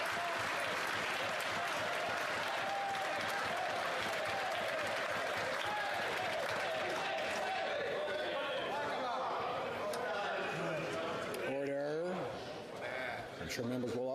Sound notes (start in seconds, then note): 0.0 some Applause; 3.2 cheering